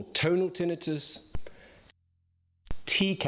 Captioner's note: high pitched ringing